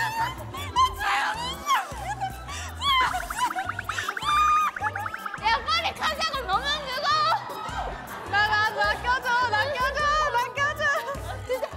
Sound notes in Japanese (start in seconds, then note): 3.1 ズルズル…; 4.1 （解析不可）大きくなっていく悲鳴